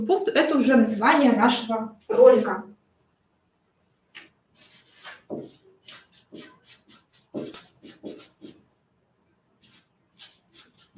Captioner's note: шелест маркера по бумаге